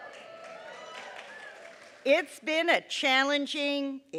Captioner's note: applause